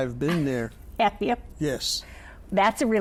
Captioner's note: laughs